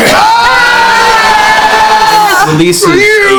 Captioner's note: cheering